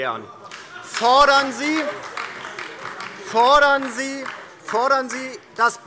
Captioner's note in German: Beifall DIE LINKE - Lachen und Zurufe AfD